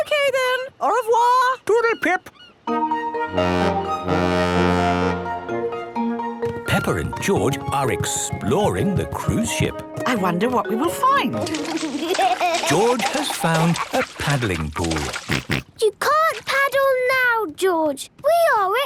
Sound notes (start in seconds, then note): 3.2 boat horn honking; 11.4 giggling; 15.0 George snorts